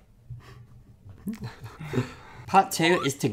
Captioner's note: lightly laughing